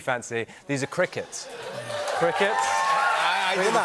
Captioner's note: cheers and applause